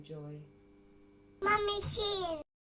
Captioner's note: kid voice